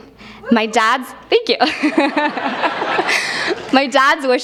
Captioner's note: laughs